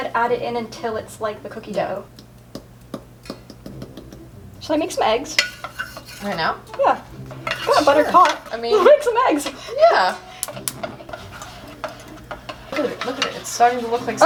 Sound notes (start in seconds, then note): 3.2 tapping on the mixing bowl